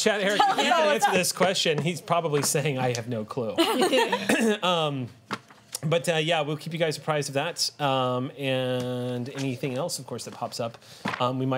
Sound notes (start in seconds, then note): 3.6 laughter